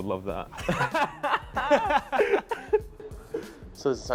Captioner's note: laughing